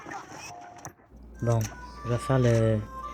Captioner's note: music and speeding horse; inventory noises